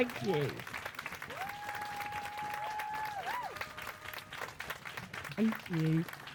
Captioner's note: cheers & applause